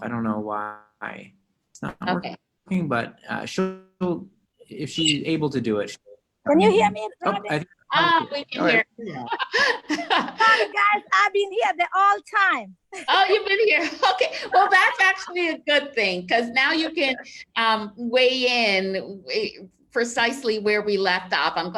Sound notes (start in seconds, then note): 9.0 laughs